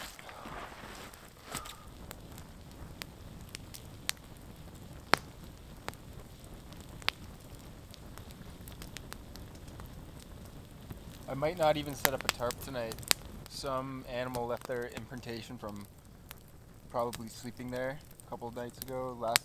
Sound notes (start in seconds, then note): 1.6 sighs; 2.8 fire crackling